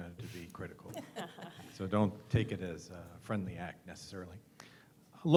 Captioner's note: laugh